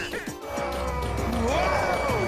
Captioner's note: roars